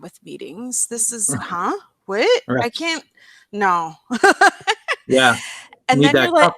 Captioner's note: laughs